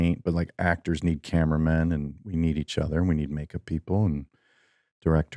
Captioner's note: none